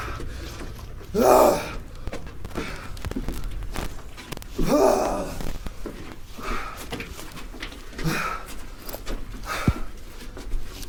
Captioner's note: Pete grunts; footsteps clomping